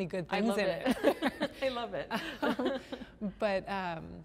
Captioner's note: laughter